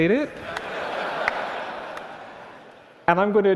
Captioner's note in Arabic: ضحك